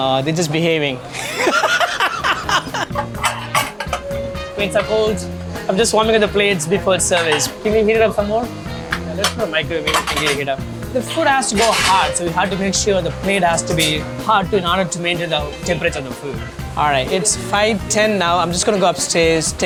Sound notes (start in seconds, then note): 1.1 laughing; 3.9 plates clinking; 3.9 upbeat music